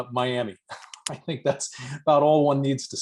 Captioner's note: laughter